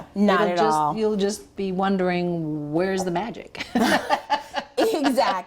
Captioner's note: laughing